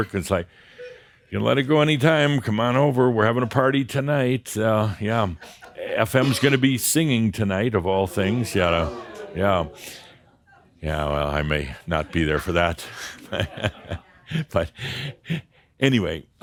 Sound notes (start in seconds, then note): 8.1 audience says “Ohh!”; 14.1 Adamus chuckles